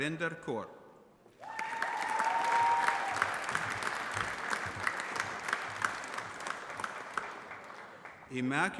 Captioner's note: applause